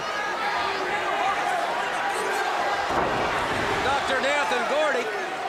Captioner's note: crowd chatter